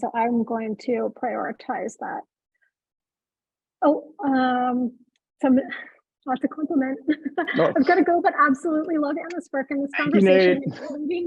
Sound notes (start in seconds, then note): 5.2 chuckles; 7.4 laughs